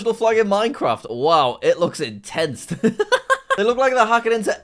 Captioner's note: laughs